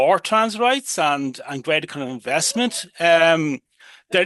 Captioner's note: cheering in background